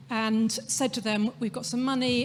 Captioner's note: none